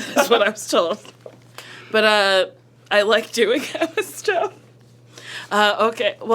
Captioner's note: laughs; laughs